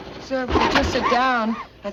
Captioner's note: engine backfiring